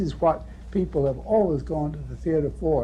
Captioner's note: none